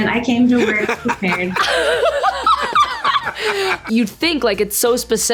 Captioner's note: laughter